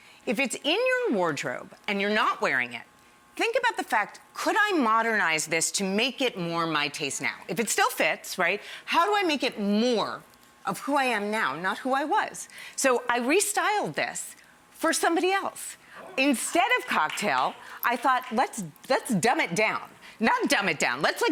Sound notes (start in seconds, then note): 15.5 audience cheers